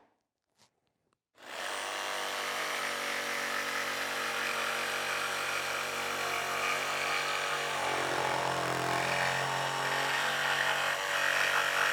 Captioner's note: sawing